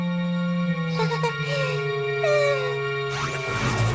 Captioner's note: chuckles nervously